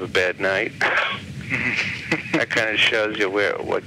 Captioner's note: laughs